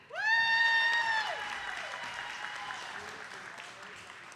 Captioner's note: attendees clapping